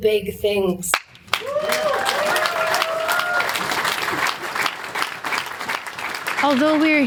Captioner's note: audience cheering and applauding